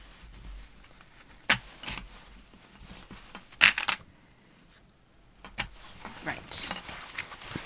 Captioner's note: clips rattling